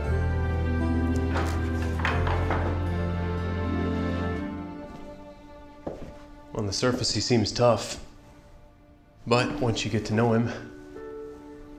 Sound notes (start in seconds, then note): 1.0 door opens; 4.3 footsteps